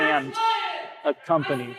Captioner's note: shouting